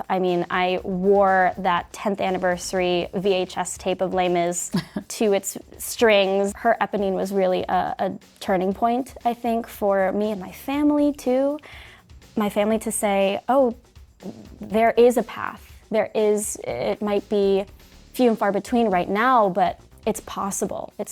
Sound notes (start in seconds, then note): 4.6 laughing